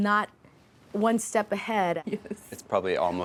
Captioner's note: laughs